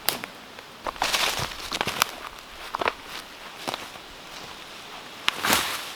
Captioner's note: brush and branches rustling